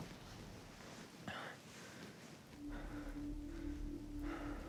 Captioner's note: Keith breathing heavily